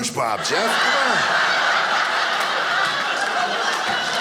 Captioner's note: audience laughing